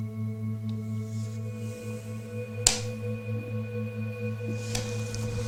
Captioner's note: tape recorder clicks